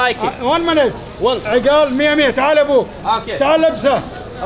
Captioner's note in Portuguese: Falas em árabe